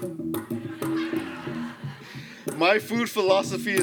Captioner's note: laughter